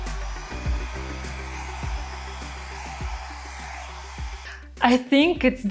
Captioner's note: machine whooshing